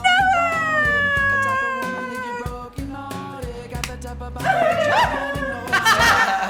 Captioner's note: cries; laughs